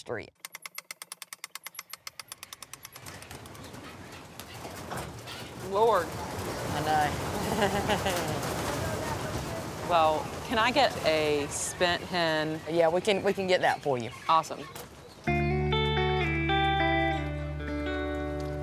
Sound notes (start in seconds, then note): 0.4 ratchet clacking; 2.9 wings loudly beating; 7.3 chuckles; 15.2 gentle music